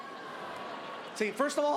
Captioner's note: crowd